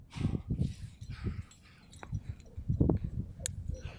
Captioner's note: heavy breathing